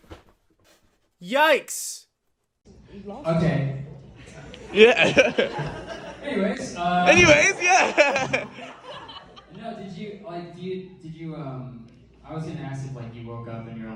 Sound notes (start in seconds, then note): 4.6 audience laughs; 7.1 audience laughing